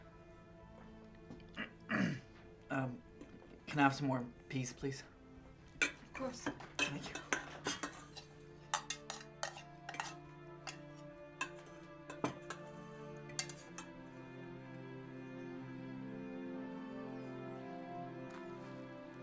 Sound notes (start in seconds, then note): 1.5 clears throat; 8.3 dishes clinking; 12.0 dramatic orchestral music continues